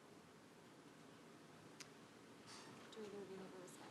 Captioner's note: shuffling